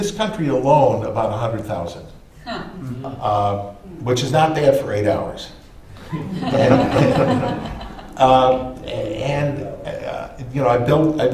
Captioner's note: laughter